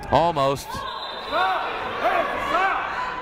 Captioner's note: whistle blows